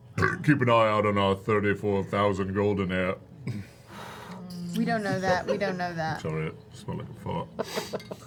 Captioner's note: belches